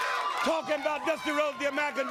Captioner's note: crowd cheering